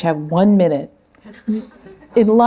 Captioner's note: laughter